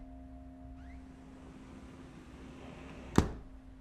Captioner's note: door opening